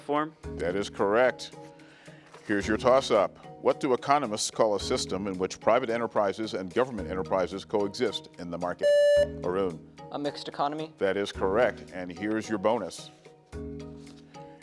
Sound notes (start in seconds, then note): 8.8 buzzer beeps; 13.1 gentle music